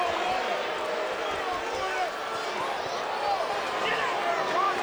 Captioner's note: crowd murmuring